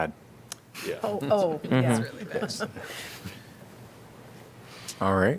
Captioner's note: laughter